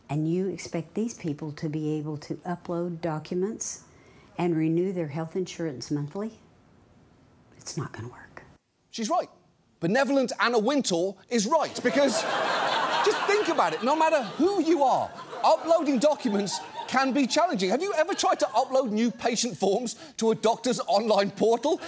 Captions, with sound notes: And you expect these people to be able to upload documents and renew their health insurance monthly? It's not going to work. She's right. Benevolent Anna Wintour is right. -(STUDIO AUDIENCE LAUGHS) -Because just think about it. No matter who you are, uploading documents can be challenging. Have you ever tried to upload new patient forms to a doctor's online portal?